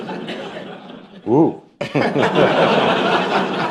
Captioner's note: laughter